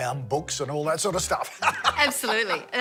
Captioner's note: laughing